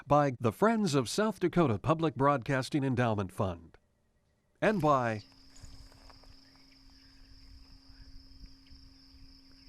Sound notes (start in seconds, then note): 5.5 crickets chirping